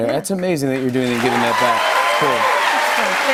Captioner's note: cheers and applause